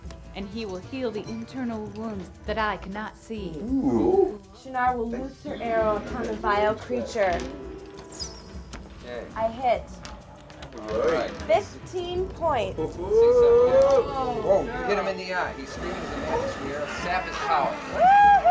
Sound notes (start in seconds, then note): 7.9 dice clatter; 12.5 group chattering